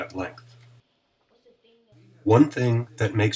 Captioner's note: chatter